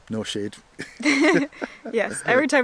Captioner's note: laughter